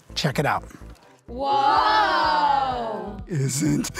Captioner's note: children Exclaim